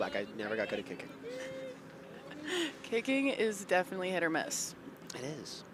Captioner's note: laughs